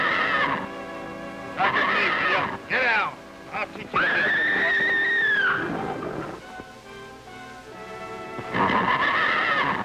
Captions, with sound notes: - Get down! I'll teach you to- (horse neighing)